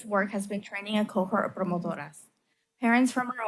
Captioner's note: foreign language